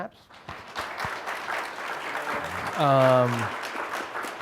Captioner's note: applause